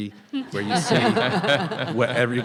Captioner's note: people laughing